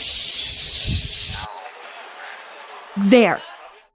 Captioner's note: general chatter